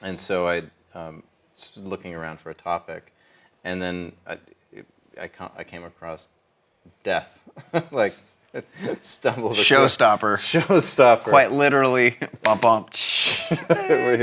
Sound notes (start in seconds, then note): 7.6 laughs